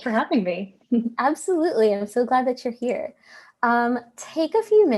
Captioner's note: chuckles